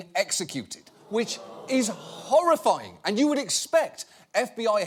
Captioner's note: audience swooning